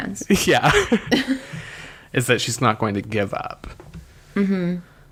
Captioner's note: laughs